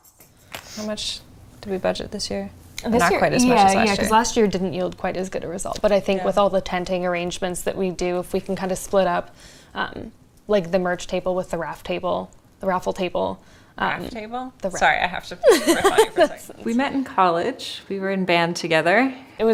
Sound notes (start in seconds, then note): 15.4 woman laughs